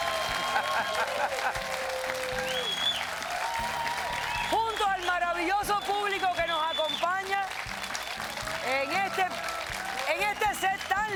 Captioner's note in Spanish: Aplausos